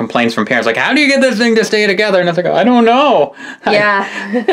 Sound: laughs

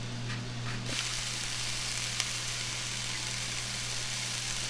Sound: sizzling in pan

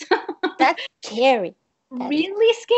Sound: chuckles

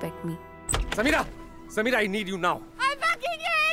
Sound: door opens

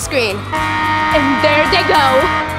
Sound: horn honking

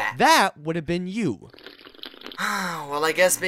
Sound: sip; sigh

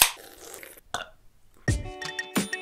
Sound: burp; non-lyrical music

